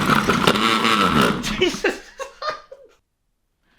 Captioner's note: startling racket